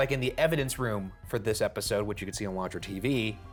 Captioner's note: none